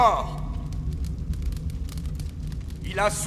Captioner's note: fire crackling